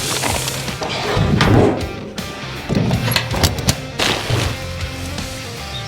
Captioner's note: heavy sheet-metal lid slams shut